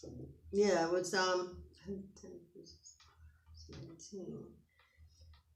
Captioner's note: whispers